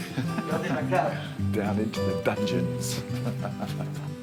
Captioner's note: laughs